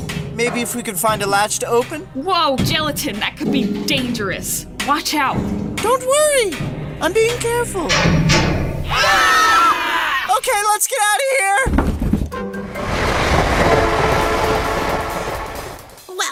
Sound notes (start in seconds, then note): 7.8 clanging increases, violently; 8.8 scream; 12.7 fast chugging noises as train speeds away